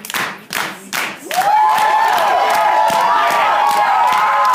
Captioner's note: cheering